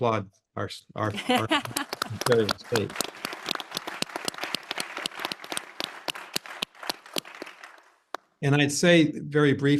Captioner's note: applause